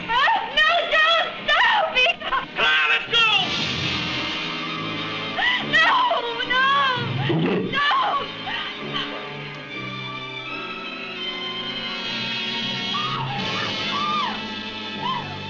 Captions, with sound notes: No, don't. Stop, Eegah. - Come on. Let's go. - No, no. (grunting) No. (screaming)